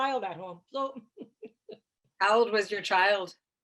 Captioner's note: chuckles